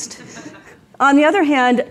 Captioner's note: audience laughing